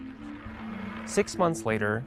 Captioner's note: roulette wheel spinning